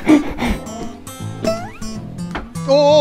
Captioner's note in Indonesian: Buzz